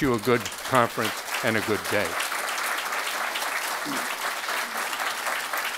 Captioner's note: crowd applauding